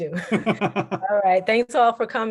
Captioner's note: laughter